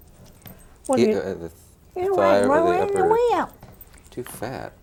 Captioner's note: group chatting